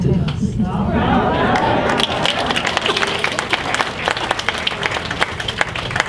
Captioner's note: audience applauds